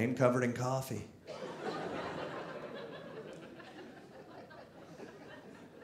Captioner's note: audience laughing